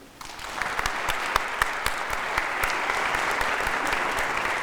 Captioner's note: audience applauding